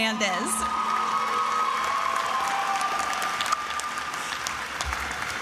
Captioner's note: attendees applauding and cheering